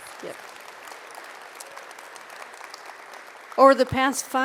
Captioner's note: audience applauds